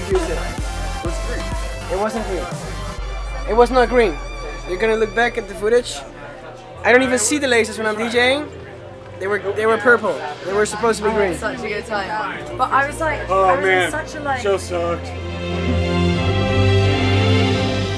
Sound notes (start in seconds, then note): 13.4 sarcastically